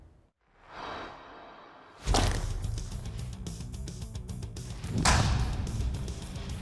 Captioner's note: chopping sound